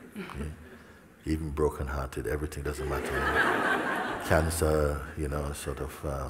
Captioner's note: laughter